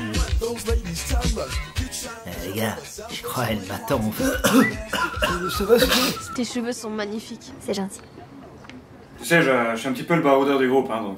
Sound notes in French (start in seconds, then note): 3.9 tousse; 4.5 siffle